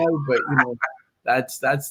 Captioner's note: laughs